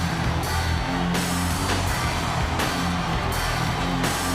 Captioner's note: audience cheers